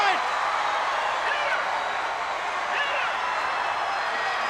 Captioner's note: crowd cheering